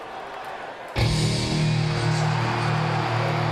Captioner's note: crowd cheering; intense rock music